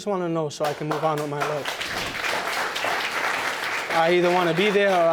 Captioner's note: audience applauds